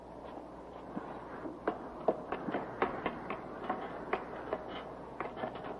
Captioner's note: footsteps receding